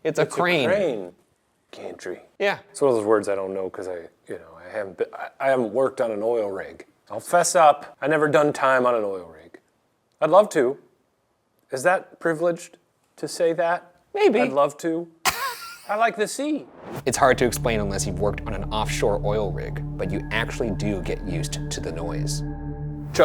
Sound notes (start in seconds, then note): 15.2 Ryan laughs